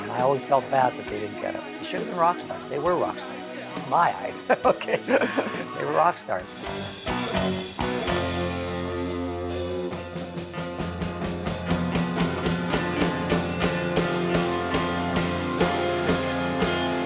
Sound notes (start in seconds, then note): 4.3 laughing; 7.5 rock music